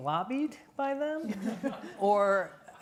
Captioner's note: all laughing